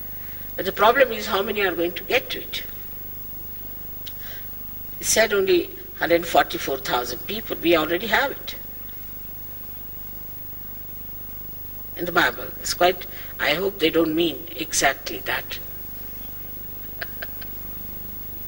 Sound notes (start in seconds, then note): 16.8 laughs